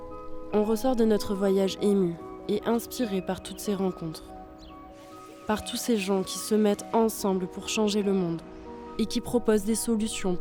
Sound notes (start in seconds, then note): none